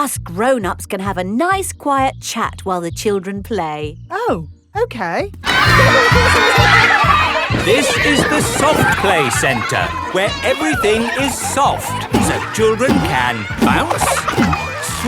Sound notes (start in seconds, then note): 8.1 loudly over shouting